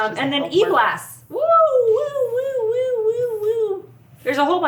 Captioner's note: woos repetitively